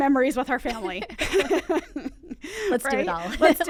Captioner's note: both laughing